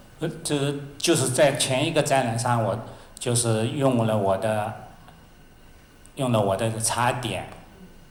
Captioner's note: Mandarin